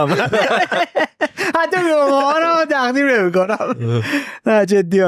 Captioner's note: laughs